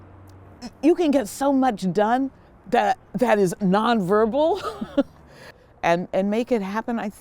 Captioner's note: laughing